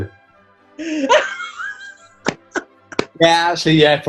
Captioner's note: cackling